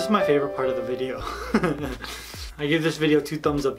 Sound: chuckles

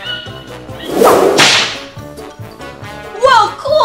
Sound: slapping sounds

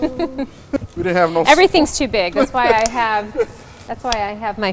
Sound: laughs

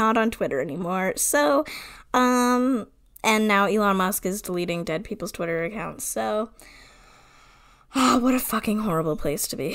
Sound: sighs

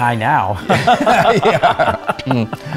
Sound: laughs

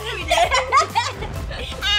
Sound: laughing

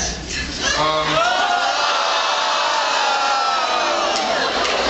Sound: uproar

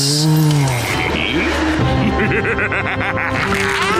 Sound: laughing

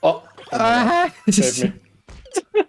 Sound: scream; giggle; disappointed laughter

